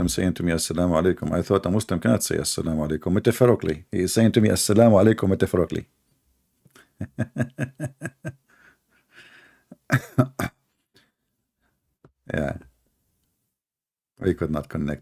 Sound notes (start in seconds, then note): 6.8 Ketawa